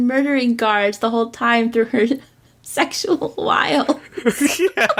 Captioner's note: laughs